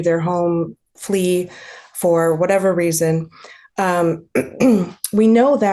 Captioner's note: clears throat